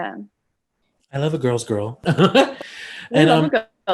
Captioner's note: laughs